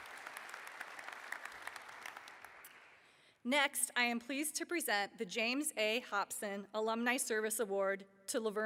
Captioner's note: applause